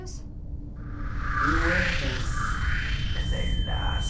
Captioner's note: high pitched tone